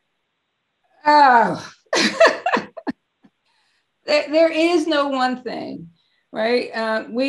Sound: chuckles

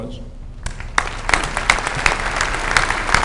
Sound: applause

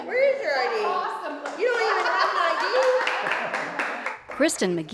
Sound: laugh

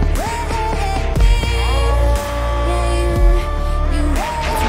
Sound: distorted screaming

